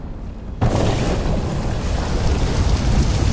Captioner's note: explosion